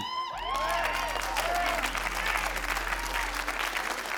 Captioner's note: crowd applauds